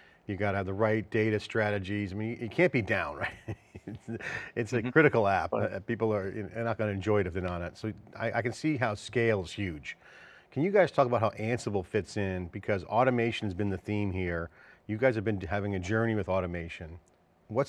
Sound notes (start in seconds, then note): 2.9 laughs